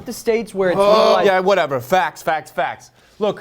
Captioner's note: groans